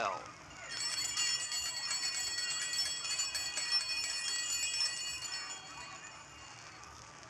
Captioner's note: bells ringing